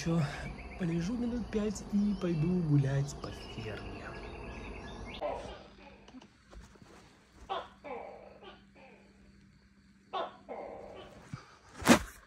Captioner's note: that's how the geckos yell